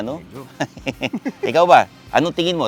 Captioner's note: laughs